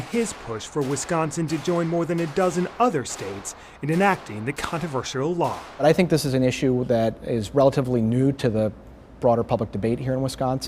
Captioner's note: gunshots